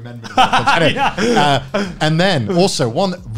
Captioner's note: laughing